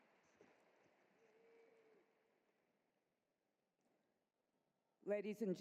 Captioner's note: applause